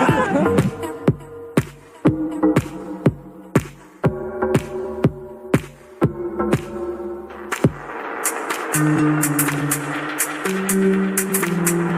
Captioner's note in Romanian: Aplauze